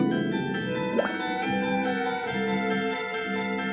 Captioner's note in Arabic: فقاعات الماء